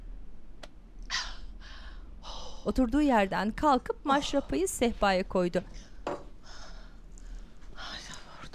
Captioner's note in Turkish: Nefes sesi